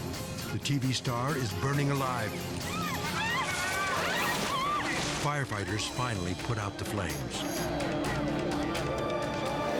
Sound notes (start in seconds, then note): 2.6 people shouting; 2.6 screams